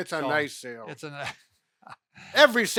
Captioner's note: chuckles